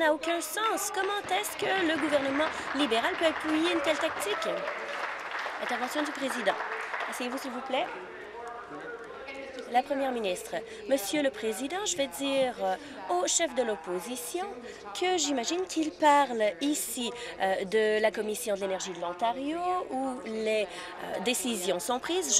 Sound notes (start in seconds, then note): 5.3 applause